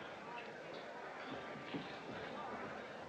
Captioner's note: whispers